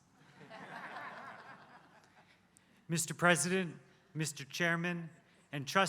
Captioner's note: laugh